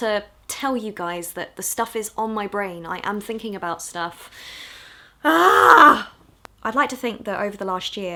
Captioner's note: exclaims